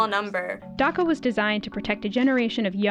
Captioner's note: voice-over